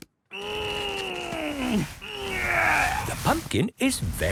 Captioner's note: straining